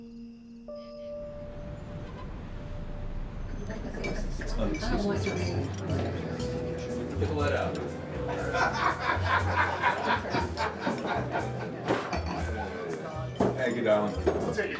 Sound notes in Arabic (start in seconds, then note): 3.7 الثرثرة; 8.2 يضحك الرجل